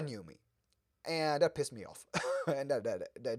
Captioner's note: laughs